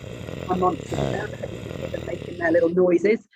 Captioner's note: growling